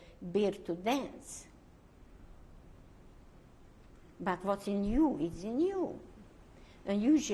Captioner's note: pauses for 3 seconds